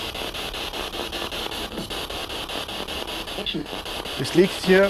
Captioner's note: noise of the spiritbox in the background